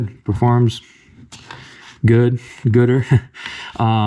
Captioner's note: chuckle